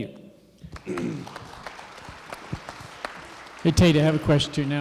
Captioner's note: applause